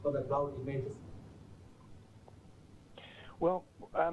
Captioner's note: pause